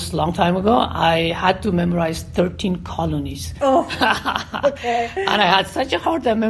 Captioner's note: laughs